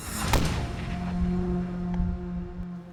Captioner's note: gunshot